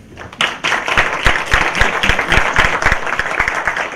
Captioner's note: applause